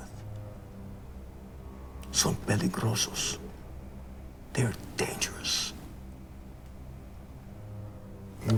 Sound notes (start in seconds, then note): 2.6 speaks in a foreign language